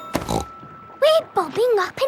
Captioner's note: snorts